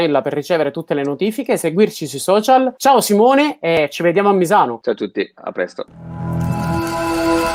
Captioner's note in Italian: Applauso